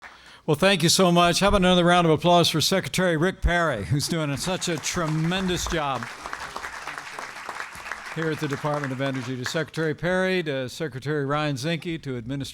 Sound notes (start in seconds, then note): 6.6 applause